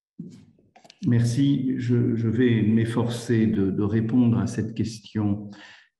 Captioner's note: speaks in foreign language